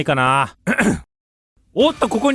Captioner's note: clears throat